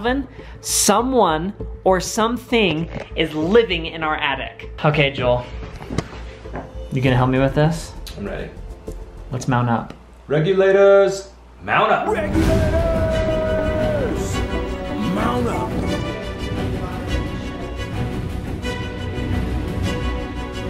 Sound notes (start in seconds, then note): 12.2 shouts Regulators; 14.0 dramatic music